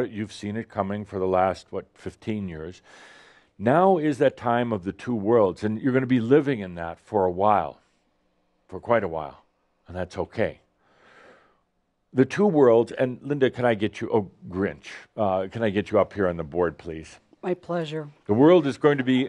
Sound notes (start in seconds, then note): none